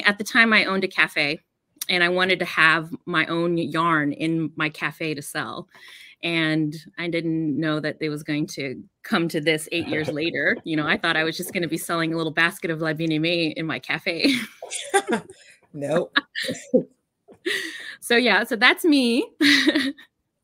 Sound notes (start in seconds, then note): 14.5 laughs